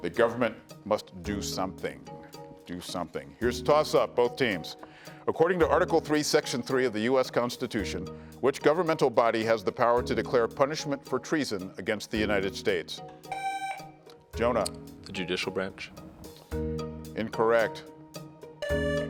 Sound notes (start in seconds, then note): 13.3 tone sounds; 18.6 tone sounds